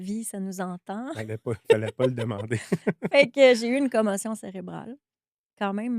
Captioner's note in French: rires